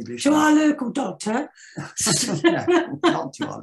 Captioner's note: laughs